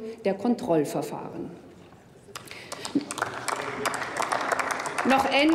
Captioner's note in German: Applaus